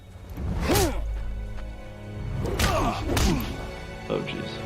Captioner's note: fist smacking